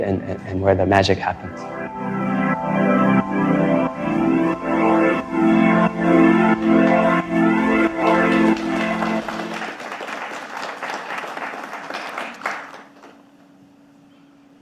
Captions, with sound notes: and where the magic happens. (slow music) (audience applauding)